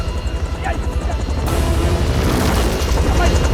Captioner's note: Kang Speaking Korean